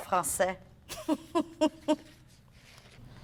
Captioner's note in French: Rire